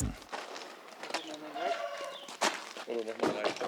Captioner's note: snatches of conversation, barking